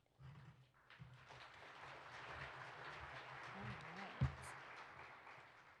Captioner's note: participants applaud